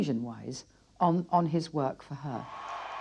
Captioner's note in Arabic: هتافات الجمهور